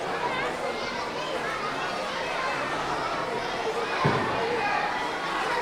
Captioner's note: audience chattering continues